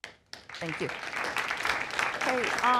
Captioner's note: applause